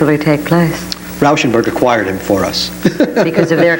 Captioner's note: laughs